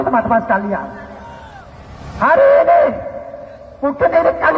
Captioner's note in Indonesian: berteriak